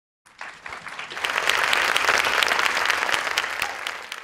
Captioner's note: attendees applaud